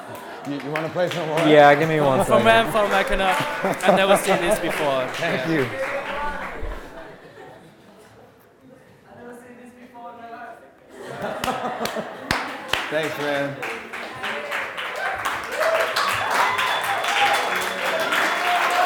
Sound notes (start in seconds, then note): 1.4 audience laughing; 6.2 audience applauding and laughing; 11.6 audience applauding; 11.6 clapping; 14.4 audience cheering and applauding